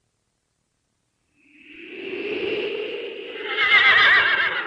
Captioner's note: SFX: wind blowing; SFX: horse whinnying